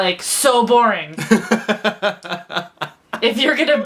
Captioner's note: laughs